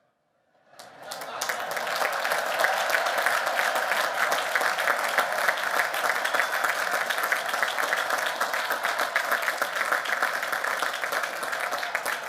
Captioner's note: applause